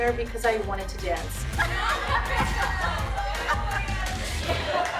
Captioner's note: laughter